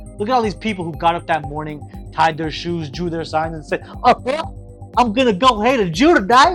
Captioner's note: goofy laugh